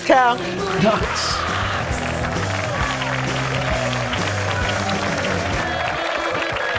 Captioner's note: upbeat rock music; audience applauding